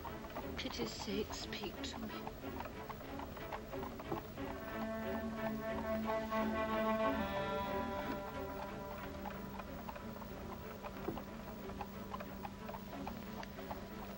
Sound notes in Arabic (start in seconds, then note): 3.4 ضربات حوافر; 3.4 موسيقى متوترة